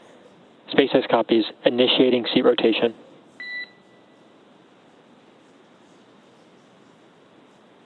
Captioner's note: beep